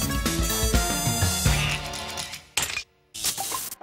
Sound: quacks

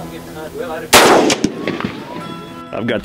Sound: rifle firing

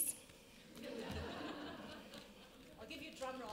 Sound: audience laughs

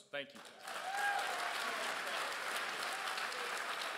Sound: crowd cheers

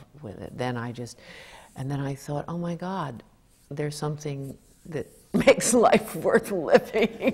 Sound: laughter

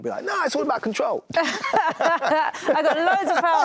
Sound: laughter

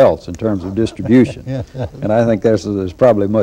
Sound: laughter

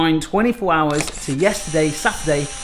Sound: rewind mechanism whirs

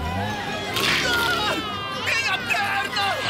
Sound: screaming

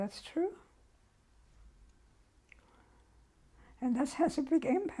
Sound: pauses for 3 seconds

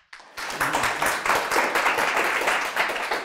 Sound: applause

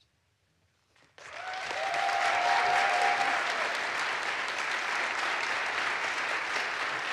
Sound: audience applauds; audience cheers

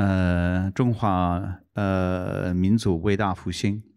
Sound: non-english speech

